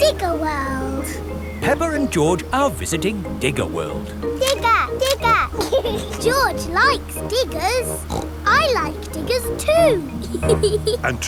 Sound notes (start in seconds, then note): 4.3 laughs; 7.9 snorts; 9.0 laughs